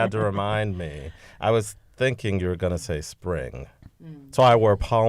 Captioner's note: laughter